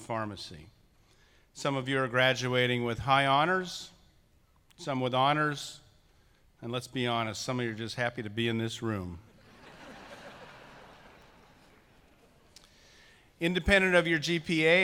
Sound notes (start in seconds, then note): 8.8 laughing